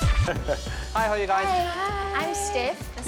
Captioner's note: chuckles